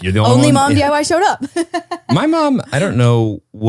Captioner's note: laugh